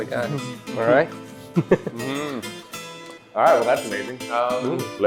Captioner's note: laughs